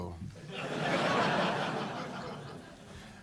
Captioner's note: laughter